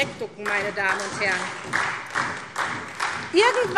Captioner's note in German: Beifall SPD und vereinzelt DIE LINKE